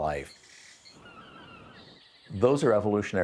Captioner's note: jungle sounds; crickets chirping; seagulls squawking